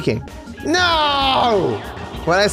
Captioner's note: voice echoes